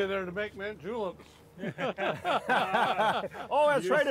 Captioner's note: all laughing